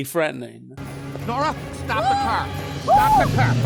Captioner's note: Nora Shrieking